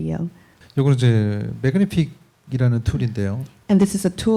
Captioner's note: speaking korean